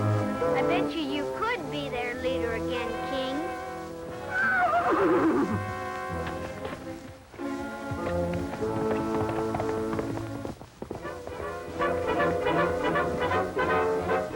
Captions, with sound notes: I bet you you could be their leader again, King. [neigh] [dramatic music playing]